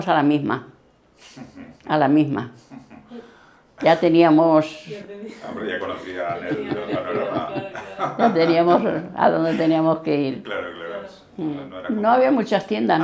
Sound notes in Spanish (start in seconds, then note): 5.2 risas